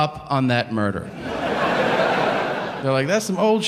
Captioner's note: audience laughing